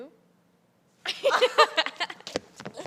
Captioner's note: laughter